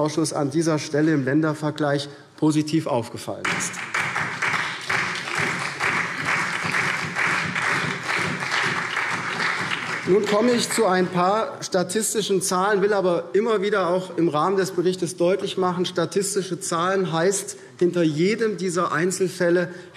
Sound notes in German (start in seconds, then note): 3.4 Beifall SPD, vereinzelt CDU und BÜNDNIS 90/DIE GRÜNEN